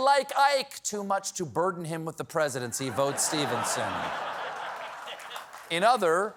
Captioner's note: laughter; applause